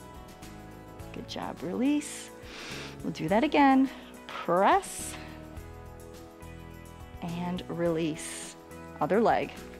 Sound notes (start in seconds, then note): 2.4 inhales